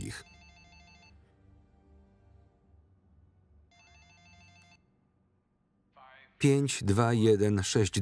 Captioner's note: phone rings